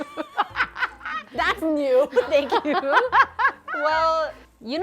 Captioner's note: laughing